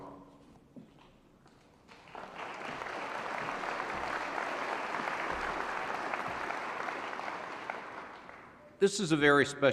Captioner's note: applause